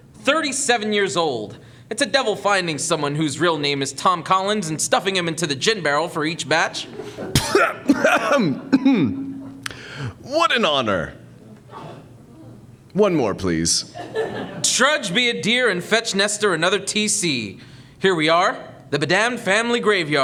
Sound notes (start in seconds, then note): 7.1 spit take